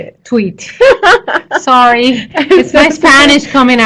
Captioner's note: laughter